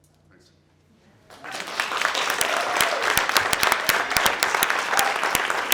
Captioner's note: applause